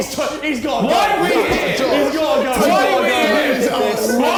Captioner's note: men yelling; men jeering